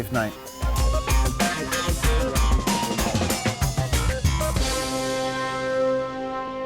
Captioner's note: funky upbeat music; siren wailing